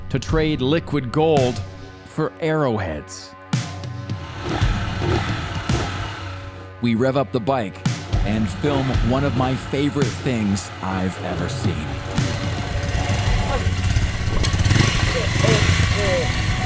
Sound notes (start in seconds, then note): 4.1 upbeat music; 7.0 motorcycle engine revving; 13.0 upbeat music continues